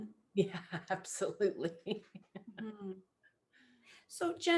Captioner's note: laughs